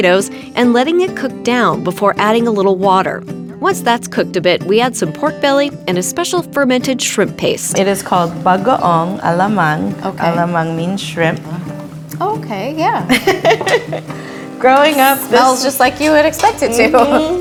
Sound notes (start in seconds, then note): 13.1 laughs